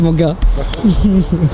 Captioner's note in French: rire